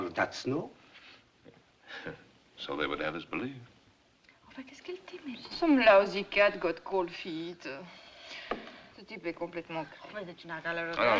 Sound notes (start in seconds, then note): 2.1 chuckles; 4.9 French